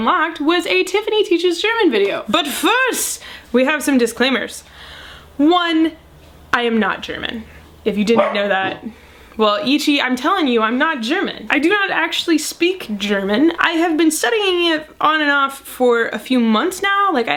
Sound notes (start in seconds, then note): 8.1 Ichi barks